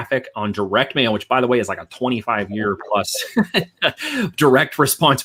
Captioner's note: chuckles